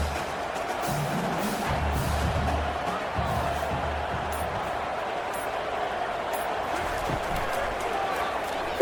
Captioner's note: crowd cheering